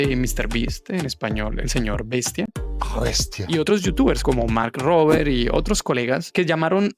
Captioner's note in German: spanisch